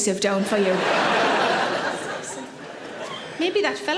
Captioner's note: audience laughs